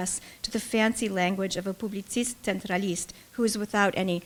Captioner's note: speaking russian